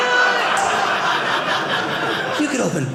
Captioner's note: audience laughing